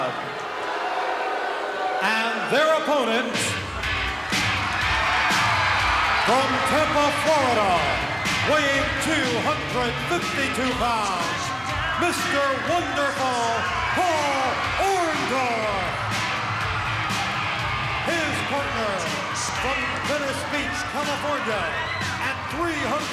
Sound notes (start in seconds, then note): 1.1 crowd boos; 4.3 upbeat rock music